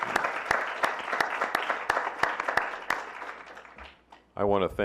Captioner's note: clapping